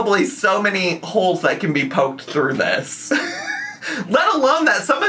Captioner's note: laughs